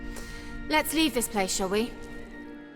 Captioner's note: quietly; normal voice